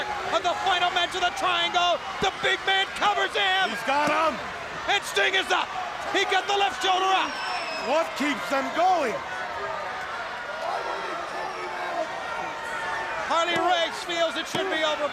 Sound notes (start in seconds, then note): 9.4 crowd chatter